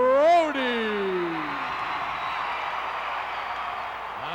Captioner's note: crowd cheering